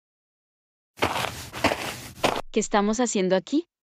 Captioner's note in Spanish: FX - Footsteps - On Multiple Dirt - Walk